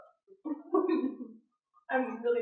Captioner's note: chuckles